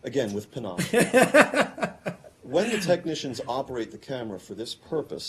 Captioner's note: laughter